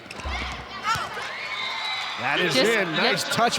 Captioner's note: audience cheering